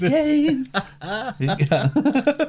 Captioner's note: laughing